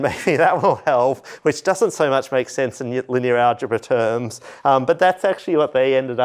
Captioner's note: laughter